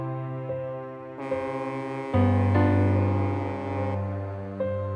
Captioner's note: river Barge Horn Blasting